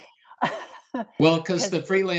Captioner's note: laughing softly